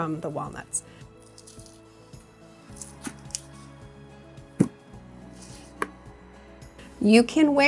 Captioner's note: gentle bright music; walnuts rustling